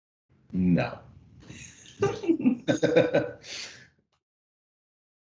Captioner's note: laughing